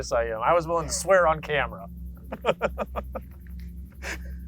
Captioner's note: laughs